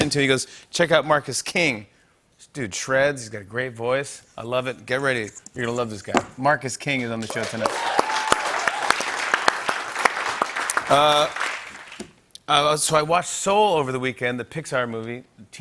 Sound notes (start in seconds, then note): 7.2 cheers and applause